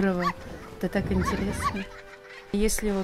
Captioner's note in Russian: детский смех